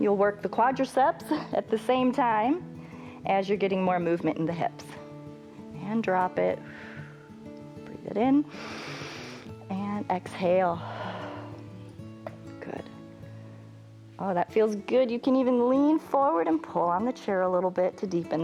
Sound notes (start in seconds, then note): 8.5 inhales; 11.3 exhales